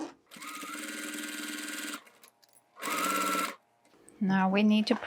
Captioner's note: machine whirring